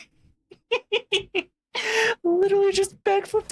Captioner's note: laughing